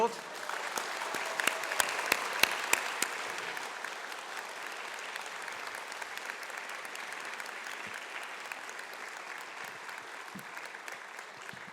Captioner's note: applause